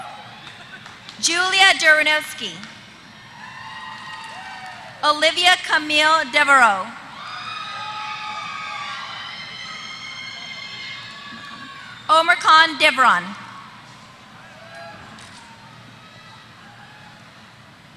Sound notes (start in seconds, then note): 7.0 applause